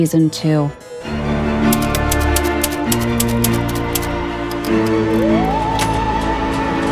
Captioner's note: eerie music; keys clacking